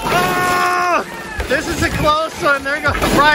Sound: everyone cheering

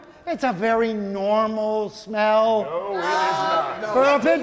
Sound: all exclaiming

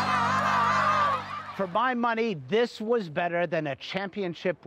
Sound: cheering and applause

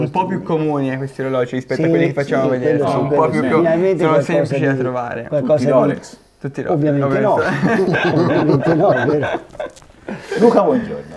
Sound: laughts

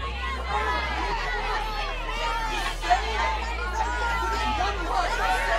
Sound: party goers yelling

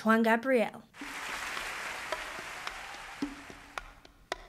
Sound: audience applauding

